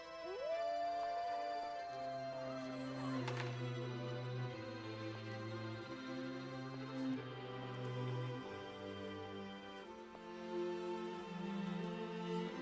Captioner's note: imanal howli ng